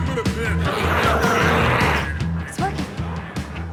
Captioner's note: glowzies growling